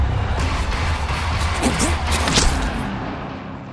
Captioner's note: blade slashes